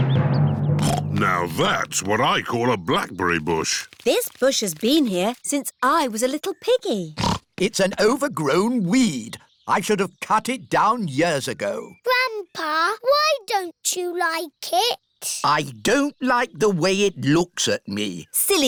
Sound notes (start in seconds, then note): 0.8 snorts; 7.2 snorts